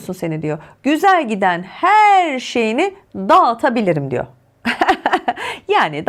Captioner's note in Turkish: kahkaha